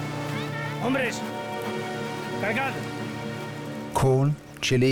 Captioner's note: speaking Spanish